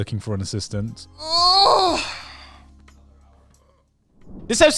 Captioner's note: yawning